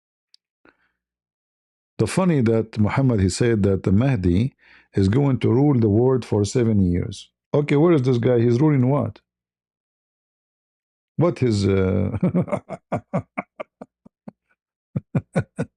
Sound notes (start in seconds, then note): 14.9 ketawa